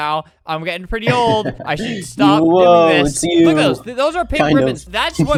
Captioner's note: laughs